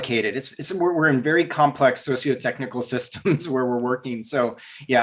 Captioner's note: giggles